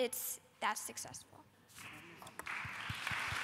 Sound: applause

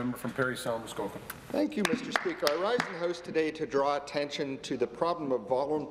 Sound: some Applause

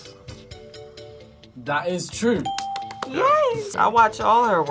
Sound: claps

